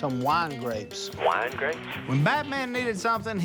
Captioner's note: on phone